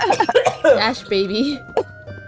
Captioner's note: horrific coughing